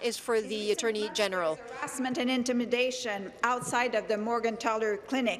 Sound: speaking in French

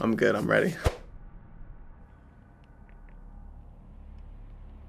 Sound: silence

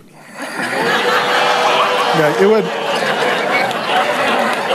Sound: congregation laughs

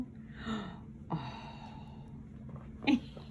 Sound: parent gasping; parent laughing

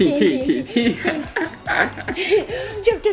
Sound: laughing

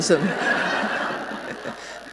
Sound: laughter

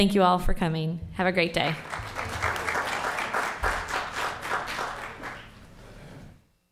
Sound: applause

